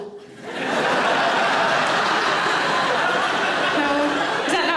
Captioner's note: audience laughing